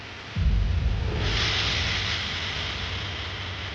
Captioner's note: steam hissing; intense music continuing